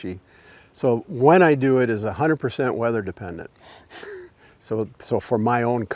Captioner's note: chuckles